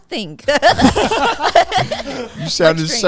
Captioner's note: everyone laughing